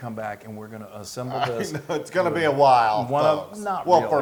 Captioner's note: laugh